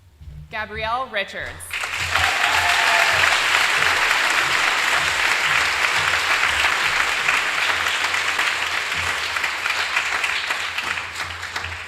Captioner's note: applause